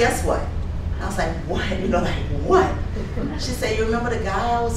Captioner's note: folks chuckling